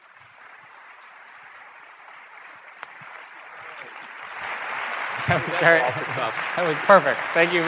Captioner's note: applause